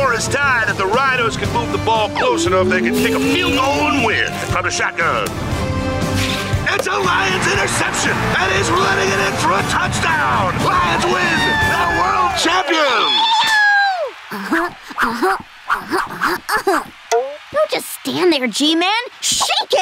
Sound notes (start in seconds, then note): 13.0 cheering